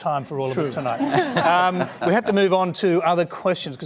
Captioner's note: laughter